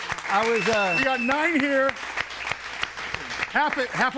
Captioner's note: audience applauds